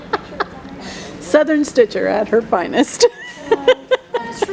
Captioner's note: laughing